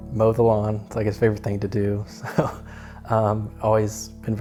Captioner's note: chuckles